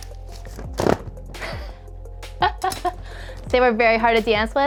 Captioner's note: laughs